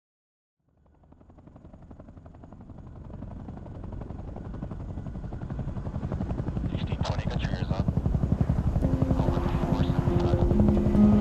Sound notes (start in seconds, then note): 0.7 helicopter blades whirring; 6.9 radio chatter